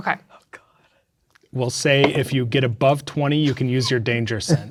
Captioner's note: dice rolling; laughing